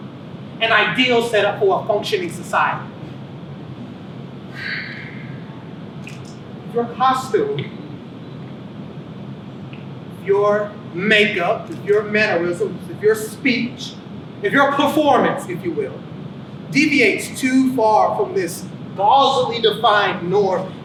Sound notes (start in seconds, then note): 4.5 sighs heavily